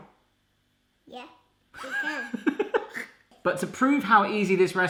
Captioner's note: laughing